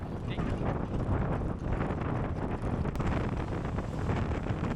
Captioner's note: wind whooshing